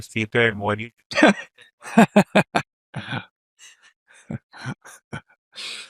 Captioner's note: laughter